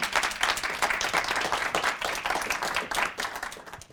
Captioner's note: audience applauds